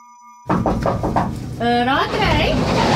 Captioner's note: knock, knock